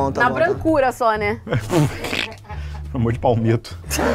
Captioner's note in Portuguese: risadas